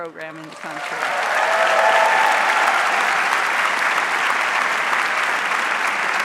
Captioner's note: audience cheers and applauds